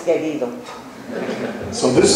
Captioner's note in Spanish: laughs